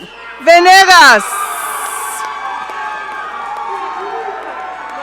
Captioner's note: audience cheering